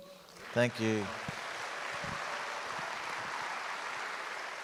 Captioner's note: audience applauds